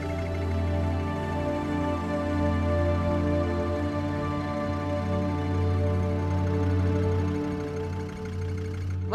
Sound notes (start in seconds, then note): 0.0 gentle music; 0.0 vehicle idling